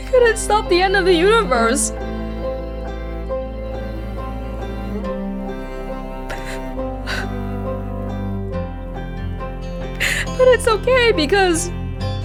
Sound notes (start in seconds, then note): 6.3 sobs softly